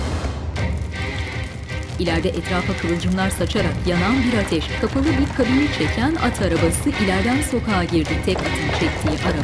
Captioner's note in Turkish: Müzik - Gerilim; Ateş sesi; At arabası sesi